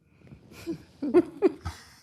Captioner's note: laughter